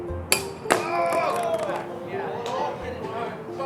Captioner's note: crowd cheers